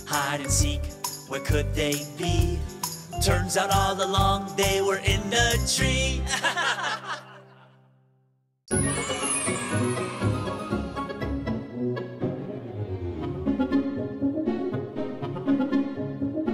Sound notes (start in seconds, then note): 6.2 group laughing; 8.7 upbeat music